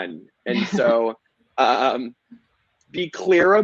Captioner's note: laughing